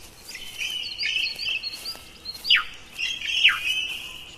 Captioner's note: birds chirping